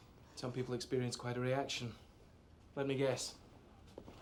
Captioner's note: none